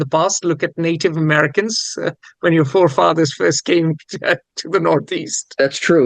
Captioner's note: laughs